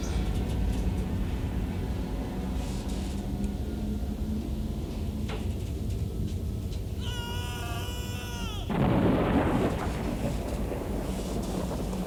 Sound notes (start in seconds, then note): 6.9 Geoff screaming; 8.6 thunder rumbling